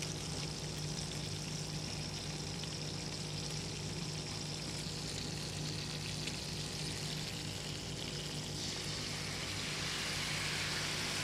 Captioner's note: pork sizzling in skillet